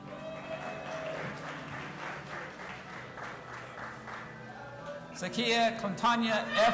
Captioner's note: audience applauding and cheering